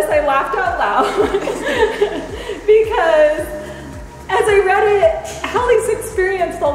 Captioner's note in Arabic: تضحك كريستال